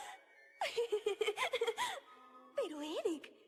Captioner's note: giggles